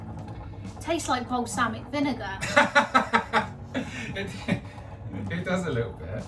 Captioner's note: laughs